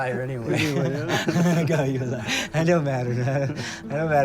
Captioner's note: chuckling